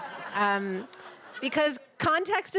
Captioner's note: laughter